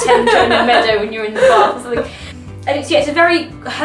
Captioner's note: laughs